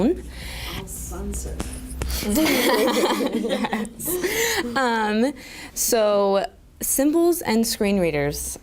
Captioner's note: laughter